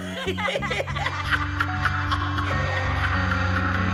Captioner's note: laughter